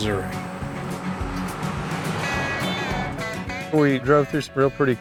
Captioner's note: engine revving; upbeat music